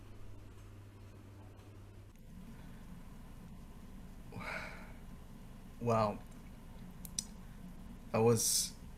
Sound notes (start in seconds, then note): 4.3 sigh